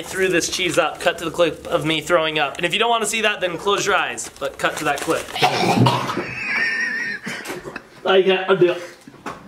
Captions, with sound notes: I threw this cheese up, cut to the clip of me throwing up. And if you don't want to see that, close your eyes, but cut to that clip. (coughing)